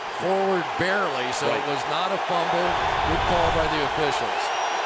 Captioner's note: crowd cheering